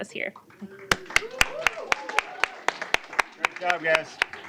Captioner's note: applause